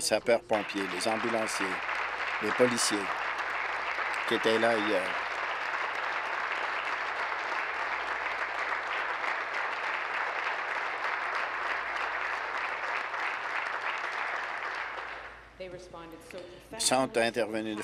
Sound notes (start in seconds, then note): 5.2 applause